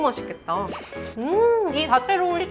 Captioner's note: nom nom